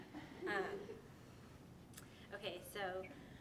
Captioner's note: audience laughing